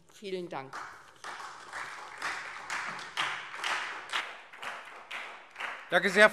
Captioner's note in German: Beifall SPD und DIE LINKE